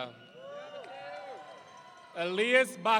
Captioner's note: audience cheering